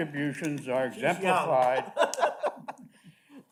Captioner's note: male Voice